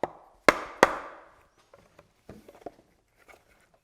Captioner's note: mallet tapping